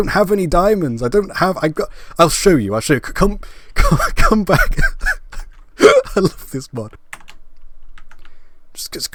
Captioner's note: laughing